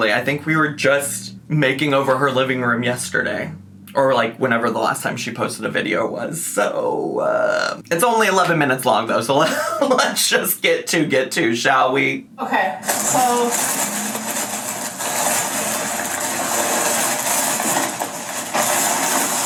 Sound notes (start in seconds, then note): 12.9 plastic bag crinkling